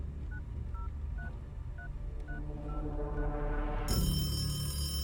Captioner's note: phone beeping; phone ringing